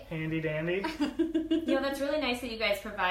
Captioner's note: laughs